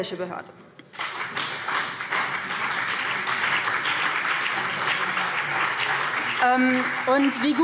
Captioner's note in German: Beifall BÜNDNIS 90/DIE GRÜNEN und CDU